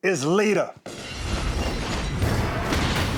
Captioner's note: glass shattering